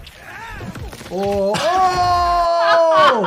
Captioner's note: video game character grunts; laughs